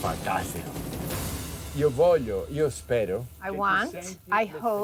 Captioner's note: speaking Italian